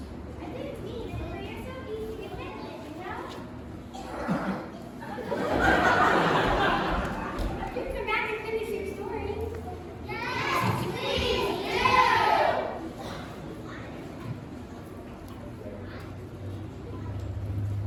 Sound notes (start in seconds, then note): 4.9 laughter